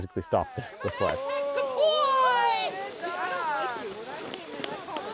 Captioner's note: CHEERING, “Good boy!”